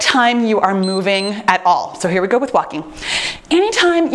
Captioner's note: timer beeps